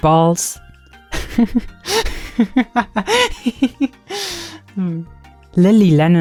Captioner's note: laughs